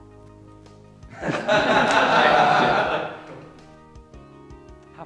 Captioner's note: laughter